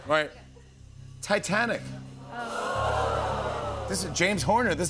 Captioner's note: audience "Ohs"